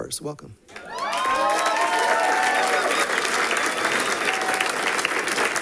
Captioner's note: people cheering and clapping